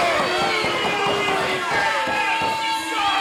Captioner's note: crowd booing